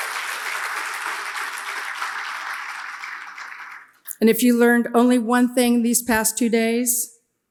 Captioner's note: audience applauds